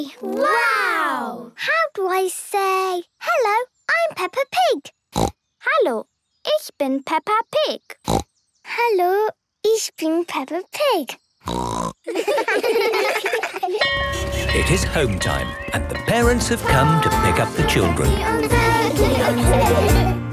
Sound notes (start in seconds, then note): 4.9 snorting; 7.8 snorting; 11.4 snorting; 12.0 laughter; 13.8 bell clanging